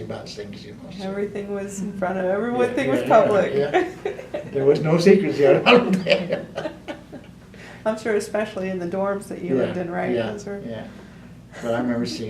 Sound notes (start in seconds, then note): 5.4 laughs